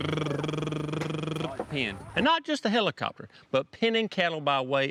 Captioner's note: imitates cow sounds; imitates helicopter whirring